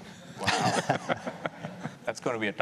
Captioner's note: laughing